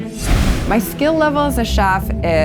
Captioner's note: screen whooshes